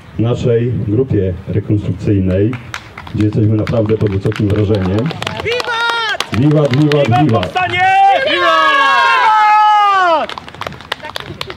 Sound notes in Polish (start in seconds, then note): 5.6 Powstańcy wiwatują, biją brawa